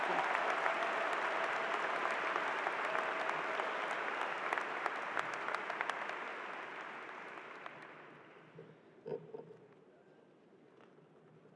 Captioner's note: applause